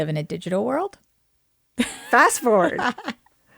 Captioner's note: laughter